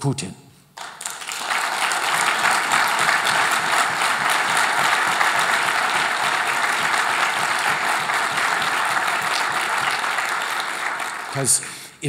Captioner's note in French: Applaudissements